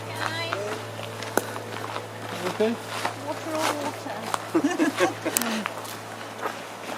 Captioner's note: giggles